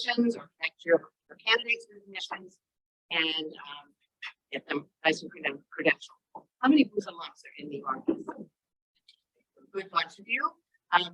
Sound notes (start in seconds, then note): 3.6 faintly speaking